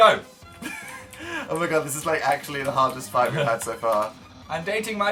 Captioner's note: laughs